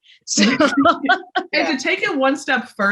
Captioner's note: laughs